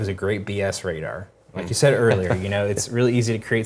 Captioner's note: laugh